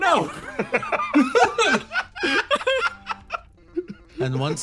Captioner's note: laughs